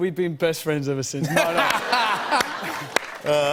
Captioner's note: laughter